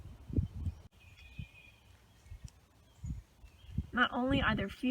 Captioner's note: birds chirping; wind; birds chirping